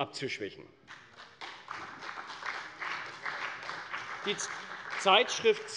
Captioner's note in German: Beifall bei der CDU und dem BÜNDNIS 90/DIE GRÜNEN